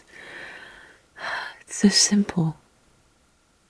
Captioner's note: sighs